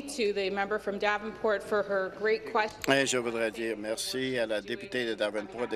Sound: speaking in French

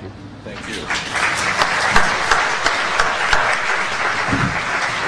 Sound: applause

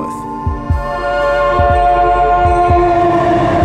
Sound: train horn blares

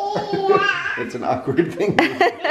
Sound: laughing

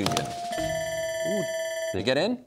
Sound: button clicks, bell ringing

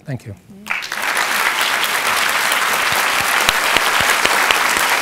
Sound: audience applauding

